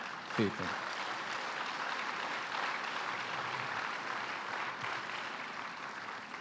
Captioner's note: applause